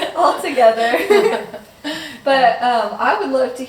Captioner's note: all laughing